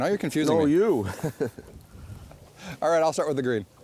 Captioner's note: hahah; voiceover